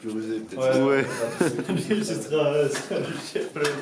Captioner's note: laughs